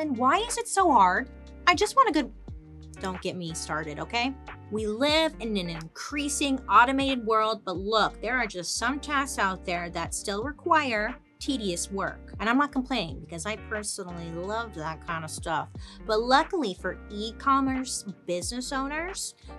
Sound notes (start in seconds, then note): none